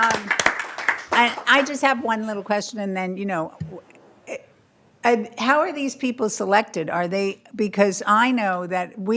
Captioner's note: applause